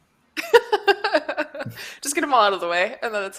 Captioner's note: laughs